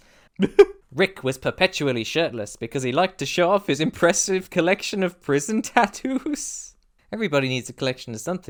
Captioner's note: hiccup laugh